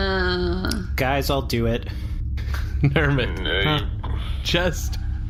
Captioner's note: laughing